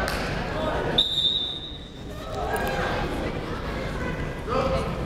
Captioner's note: whistle blaring